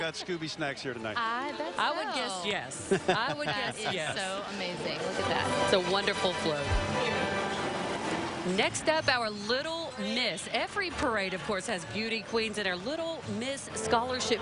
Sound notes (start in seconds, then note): 2.8 laughing; 7.8 laughing